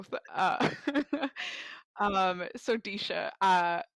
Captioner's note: laughs